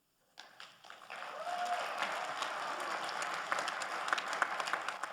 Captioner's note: generous applause rings